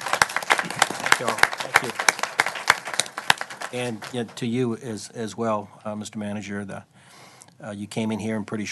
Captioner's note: applause